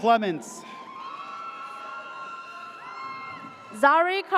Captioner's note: audience cheers